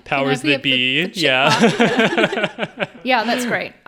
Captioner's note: all laughing